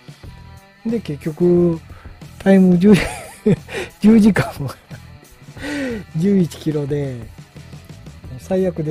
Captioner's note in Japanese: 笑い